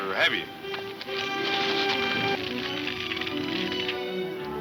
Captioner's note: fire crackling